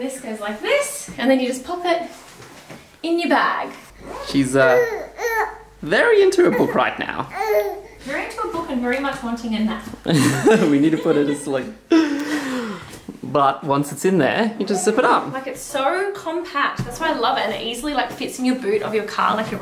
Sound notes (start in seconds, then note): 10.0 laughs